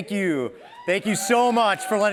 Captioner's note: cheering